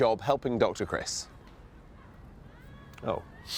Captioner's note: silence